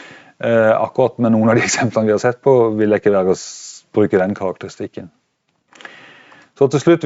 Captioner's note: laughter